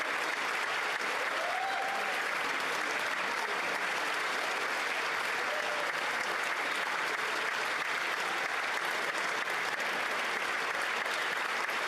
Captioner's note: applause